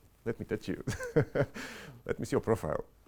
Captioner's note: laughing